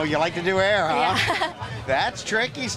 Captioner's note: laughs